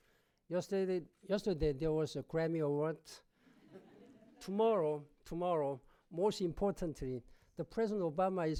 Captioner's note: laughter